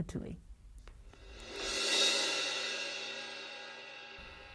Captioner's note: cymbal whoosh